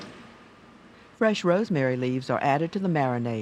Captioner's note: voiceover